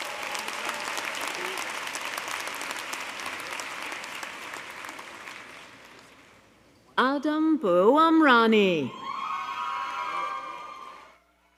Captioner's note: applause